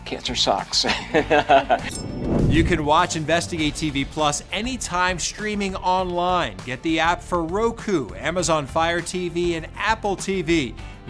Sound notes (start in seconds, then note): 0.8 laughs